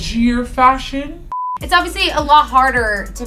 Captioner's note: beep